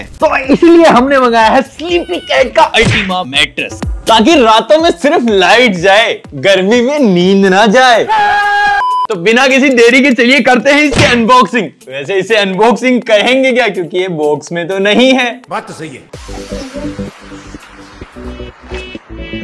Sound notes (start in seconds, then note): 8.0 shouts